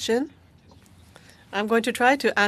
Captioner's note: speaking French